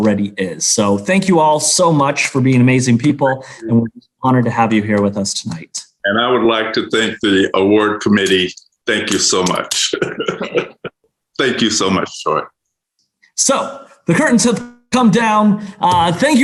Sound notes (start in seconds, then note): 5.5 group applauding; 9.4 chuckles